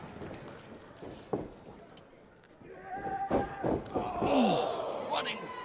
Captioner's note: crowd chatter